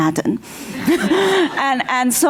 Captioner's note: laughter